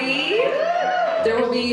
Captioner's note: cheers